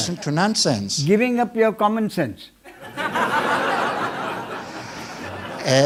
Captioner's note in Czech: smích